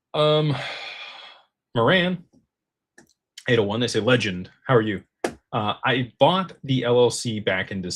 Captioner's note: sighs and gasps